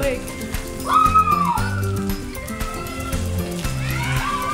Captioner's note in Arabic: صراخ; صراخ الأطفال